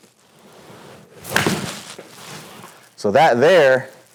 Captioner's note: golf club thudding